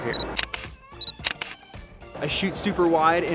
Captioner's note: camera shooting